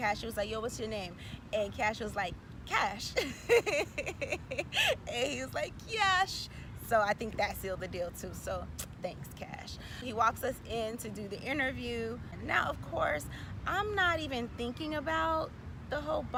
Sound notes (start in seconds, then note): 3.2 laughing